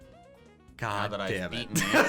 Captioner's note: laughs